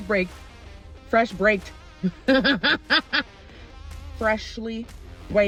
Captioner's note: maniacal giggle